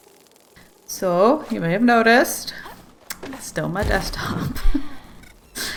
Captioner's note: laughs